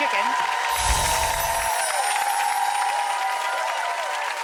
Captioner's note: applause